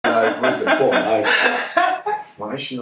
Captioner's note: woman laughing